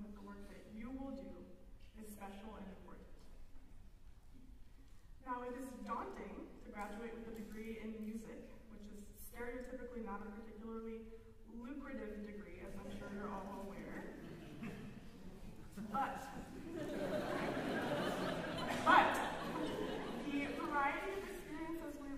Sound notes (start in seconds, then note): 14.1 laughter; 16.4 laughter